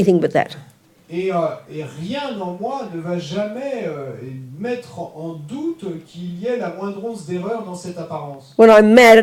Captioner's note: French